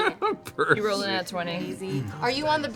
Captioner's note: laughs